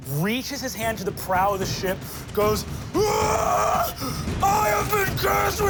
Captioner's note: yells